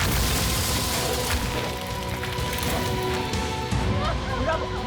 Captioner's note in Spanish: estruendo